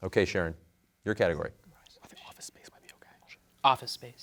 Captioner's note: whispers